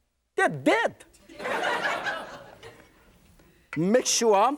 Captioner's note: laughter